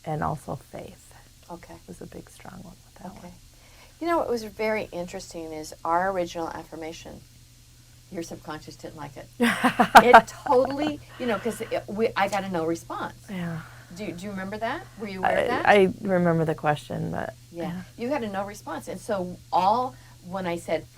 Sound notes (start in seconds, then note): 9.4 laughs